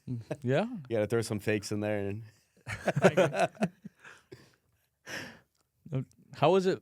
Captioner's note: laughs; laughs